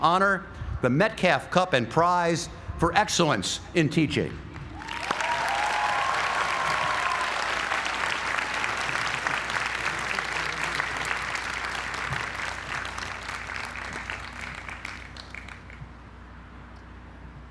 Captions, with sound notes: teaching honor, the Metcalf Cup and Prize for Excellence in Teaching. >> [APPLAUSE]